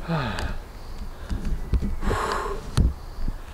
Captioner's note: heavy breathing